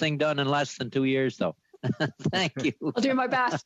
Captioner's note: laughter